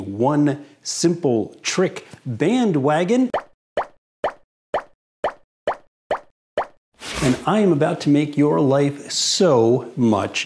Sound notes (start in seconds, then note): 3.6 pop sound for each graphic